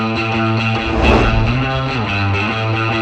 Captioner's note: swoosh